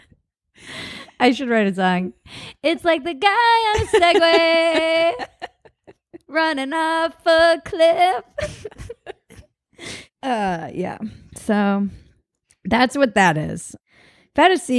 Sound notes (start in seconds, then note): 7.8 both laugh